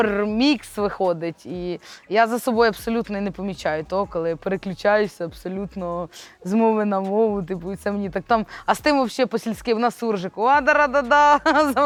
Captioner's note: mix of Ukrainian and Russian